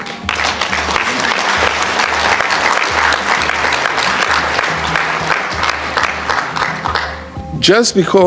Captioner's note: applause